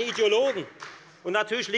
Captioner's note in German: Beifall bei der FDP